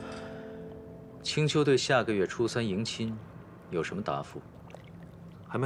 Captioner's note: sigh